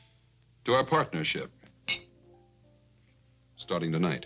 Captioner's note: glasses clinking